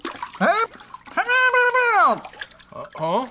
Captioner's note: gurgling